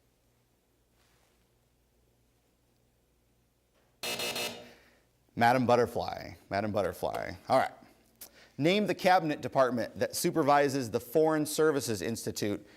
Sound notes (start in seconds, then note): 4.0 buzz